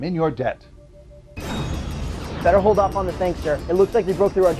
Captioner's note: explosion